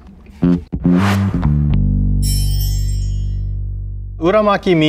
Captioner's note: text chimes; jaunty music